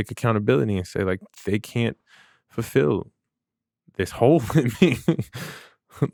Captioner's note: laughs